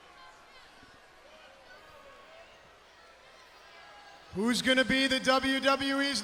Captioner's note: crowd chatter